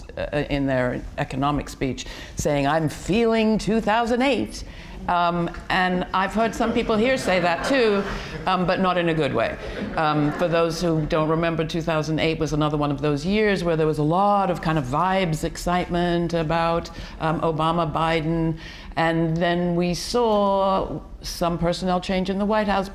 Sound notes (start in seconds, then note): 9.6 audience laughs